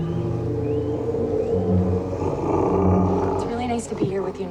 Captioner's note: eerie music; growling